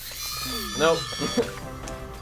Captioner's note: laughs